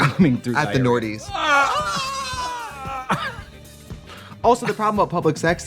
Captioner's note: both screaming